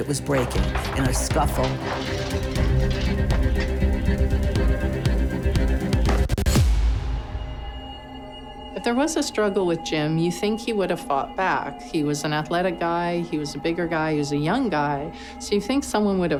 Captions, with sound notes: that was breaking and a scuffle. (ceramic crashing) (electronic scratching) - If there was a struggle with Jim, you think he would have fought back. He was an athletic guy, he was a bigger guy, he was young guy. So, you think someone would have heard